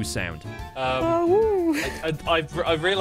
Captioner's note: awoos softly